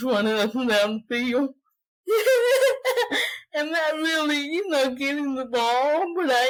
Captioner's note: laughter